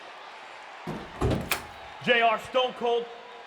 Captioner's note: door clicks